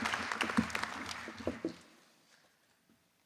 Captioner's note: applause